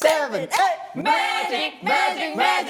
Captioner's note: with a confident voice